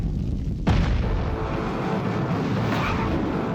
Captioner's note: explosion booms; suspenseful music